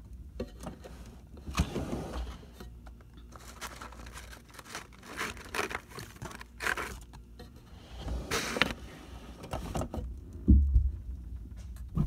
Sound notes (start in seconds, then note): 1.4 drawer sliding open; 3.2 frozen packets rustling; 7.8 drawer closing